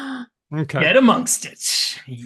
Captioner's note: gasps